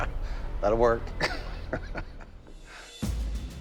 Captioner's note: laughs